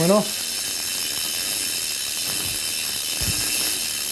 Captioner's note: bike pedal moving